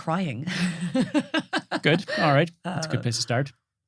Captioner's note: laughs